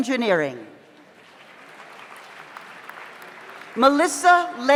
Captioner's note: audience applauds